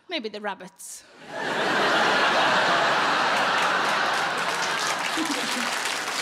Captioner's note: audience laughing and applauding